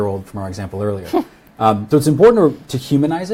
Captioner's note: laughs